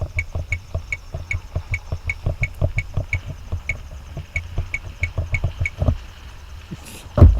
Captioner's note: camera beeping, engine in distance